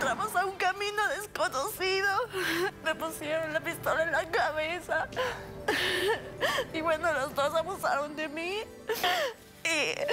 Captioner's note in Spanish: sollozos